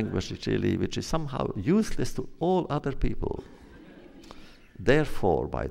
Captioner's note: laughter